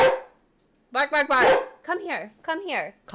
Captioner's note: barking; barks back; more barking